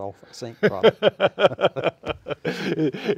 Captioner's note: laughter